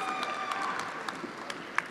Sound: attendees applauding

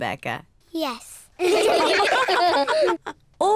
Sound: all laugh

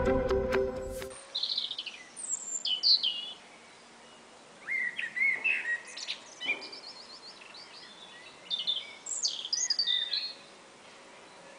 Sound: birds chirping

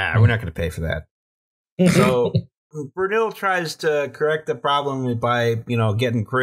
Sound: laughter

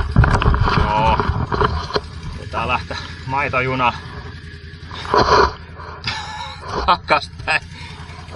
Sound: hahahahahahahahaaaa

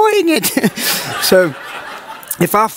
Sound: audience laughs

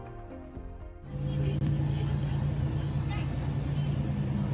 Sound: bus noise

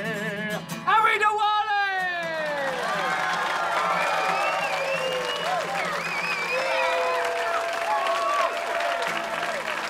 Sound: cheers and applause

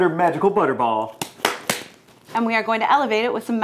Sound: slapping

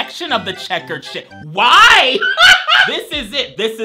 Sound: laughs

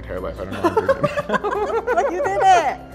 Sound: laughs

